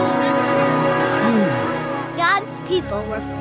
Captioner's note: Moses sighing